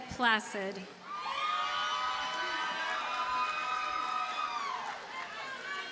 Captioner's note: audience cheers and applauds